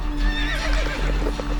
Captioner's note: horse neighs